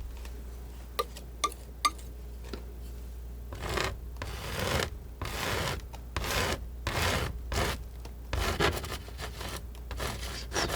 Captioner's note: scratching